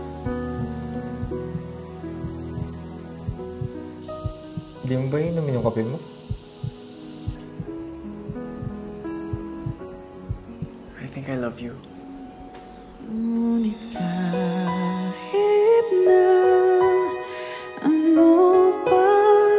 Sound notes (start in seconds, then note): 0.2 heart beats intensely; 6.8 heartbeat continues